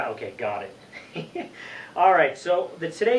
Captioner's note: laughs